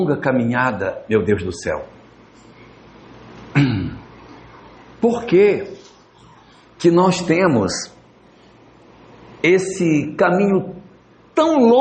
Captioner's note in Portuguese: limpando a garganta